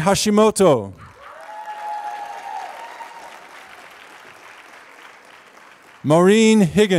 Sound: applause

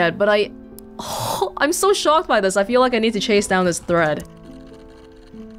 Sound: exhales

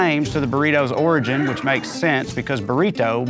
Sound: donkey brays

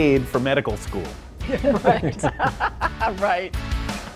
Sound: laughing; upbeat music

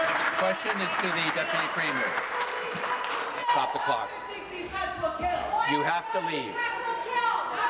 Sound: applause

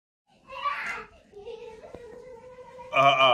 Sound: child laughing

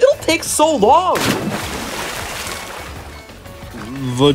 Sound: splash

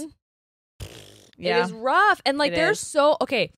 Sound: blows raspberry

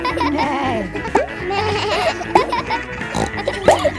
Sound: bleats; neighs; snorts

